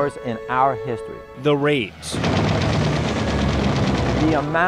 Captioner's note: gunfire